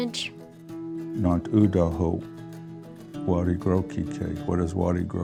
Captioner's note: speaking otoe